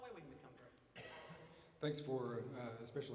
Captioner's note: coughing